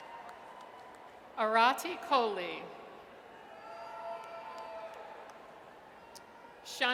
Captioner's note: audience cheers